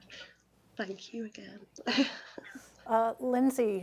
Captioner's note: chuckles